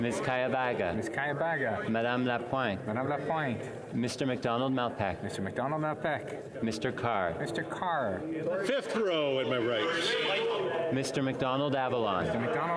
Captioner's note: calling of recorded vote